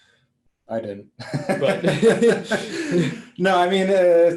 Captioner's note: all laughing